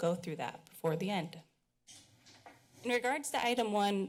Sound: pause

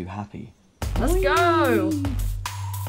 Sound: excited noises

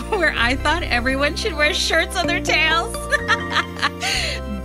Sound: laughs

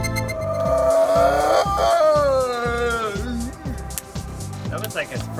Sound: roaring

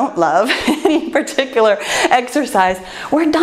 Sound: laughs

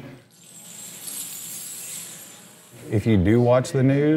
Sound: clinking

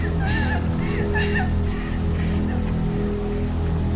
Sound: whimpers

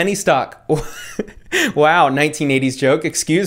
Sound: laughing

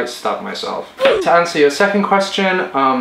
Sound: ooh! Effect

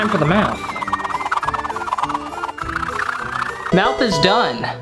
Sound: sped up carving noises

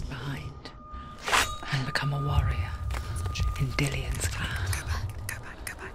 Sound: metallic ringing; whispering

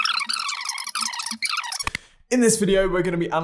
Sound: tape rewinding

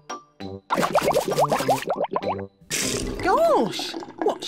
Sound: bubbles

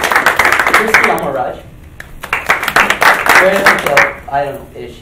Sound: applauding; applauding

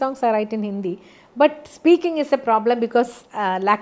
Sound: Hindi

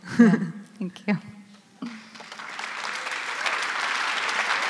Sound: applause

